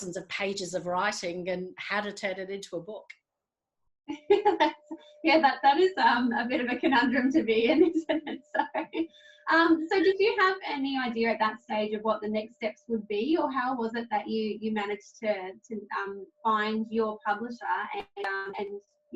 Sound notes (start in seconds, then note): 6.8 laughs